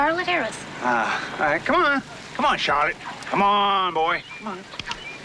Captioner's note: clicking tongue